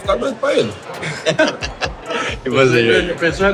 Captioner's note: laughter